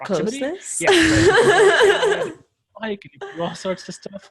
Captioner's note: laughs